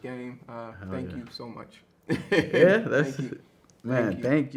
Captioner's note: laughs